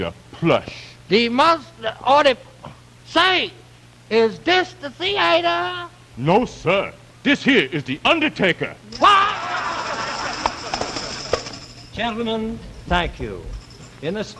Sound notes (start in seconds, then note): 9.0 laughter and tambourines